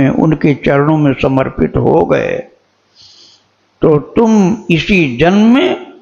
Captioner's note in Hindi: नाक से की जाने वाली आवाज़